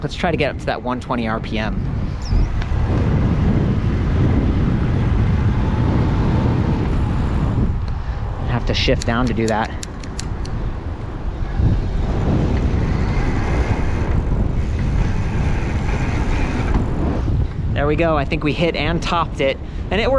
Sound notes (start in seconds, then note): 4.4 air whooshing; 8.9 gear lever clicking; 12.8 air whooshing